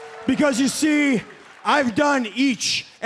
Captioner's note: crowd cheering